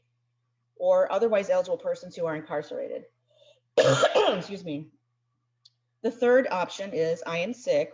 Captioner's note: coughs